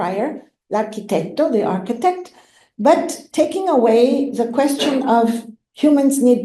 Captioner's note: italian